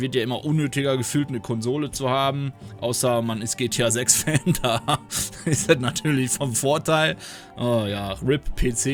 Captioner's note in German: gelächter